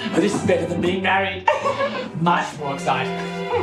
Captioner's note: giggles